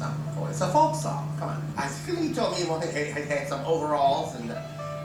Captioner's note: slurring